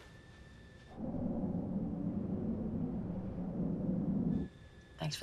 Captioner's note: airplane whooshing